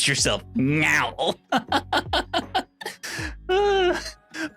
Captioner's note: laughs